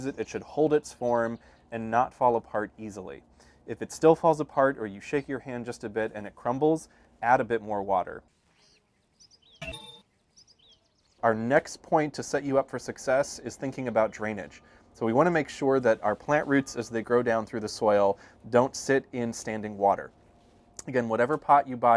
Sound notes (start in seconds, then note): 9.6 ding